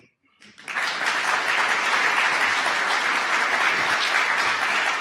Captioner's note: audience applause